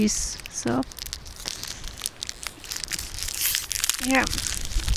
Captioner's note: crinkling sound